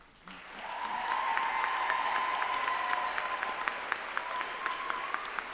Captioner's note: group applauding and cheering